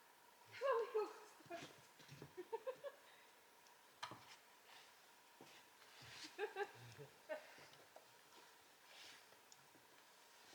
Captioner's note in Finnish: naurua ja kikatusta